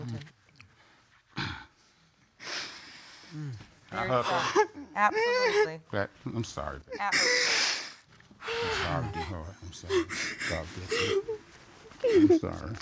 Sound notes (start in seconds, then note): 4.0 sobbing